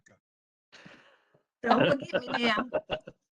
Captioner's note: laughter